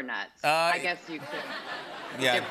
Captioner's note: laughter